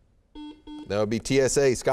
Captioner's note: beeping